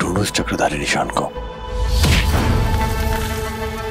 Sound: thudding

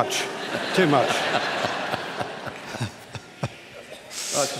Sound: laughter

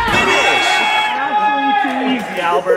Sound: voiceover

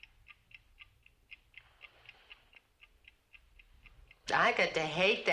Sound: clock ticking

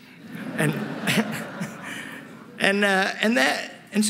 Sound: laughter

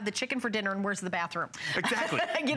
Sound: laughter

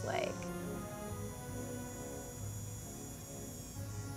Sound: machine whirring

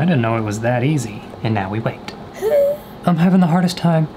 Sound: exclaims

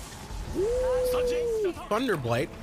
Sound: sounds of anguish

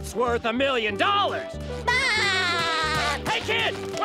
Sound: laughing

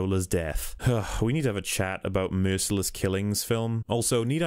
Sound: sigh

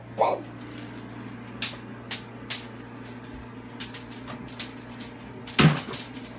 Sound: basket breaking sounds; basket slamming sound

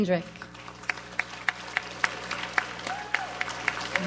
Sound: audience applauds

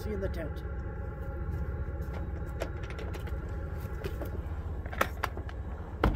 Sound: footsteps

